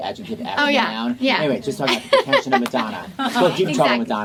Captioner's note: laughing